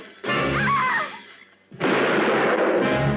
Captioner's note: kane screams; gunshot